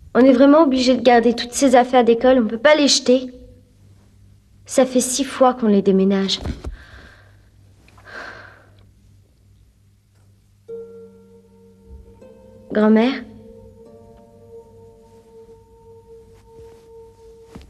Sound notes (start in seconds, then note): 8.0 sighs